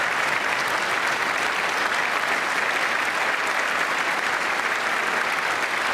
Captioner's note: applause